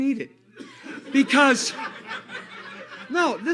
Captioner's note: laughter